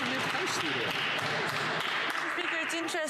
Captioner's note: some Applause